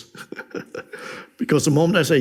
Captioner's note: laughs